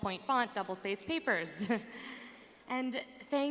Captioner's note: laughs